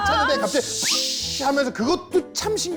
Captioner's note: psssshhh